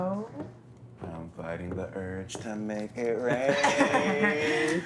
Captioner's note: laughing